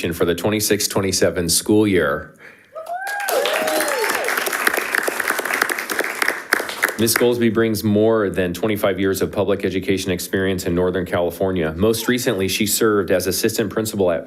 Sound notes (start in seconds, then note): 2.7 audience whooping; 2.8 audience applauding